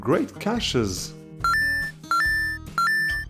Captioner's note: beeping sound